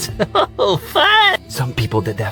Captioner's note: laughs